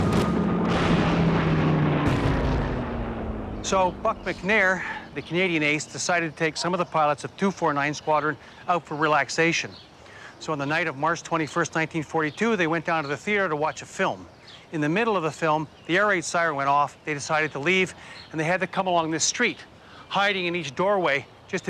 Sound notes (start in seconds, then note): 0.0 gunshot fire; 2.1 airplane explodes